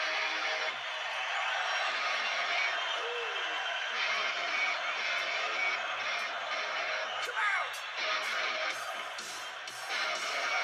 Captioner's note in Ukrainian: оплески